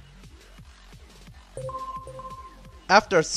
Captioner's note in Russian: Звук Avast после завершения сканирования